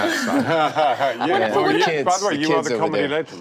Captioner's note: laughs